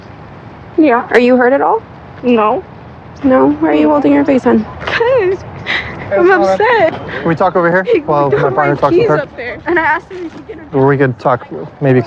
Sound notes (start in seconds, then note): 7.5 sobbibingng